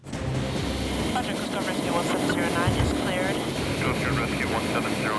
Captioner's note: radio chatter